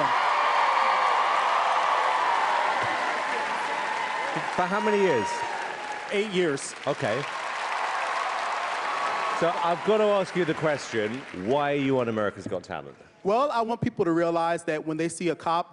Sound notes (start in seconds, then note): 0.2 cheers anapplause; 7.0 cheers and applause